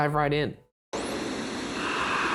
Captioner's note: static hissing; voiceover